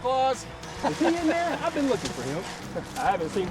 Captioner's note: laughing